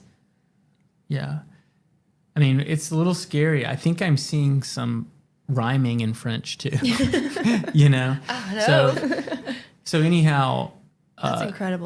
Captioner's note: laughter